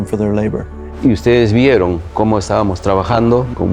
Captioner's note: speaking spanish